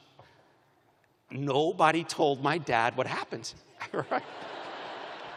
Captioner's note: laughter